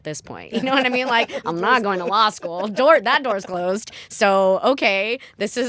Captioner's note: laughter